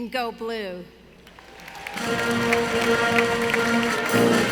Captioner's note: audience applauding; energetic music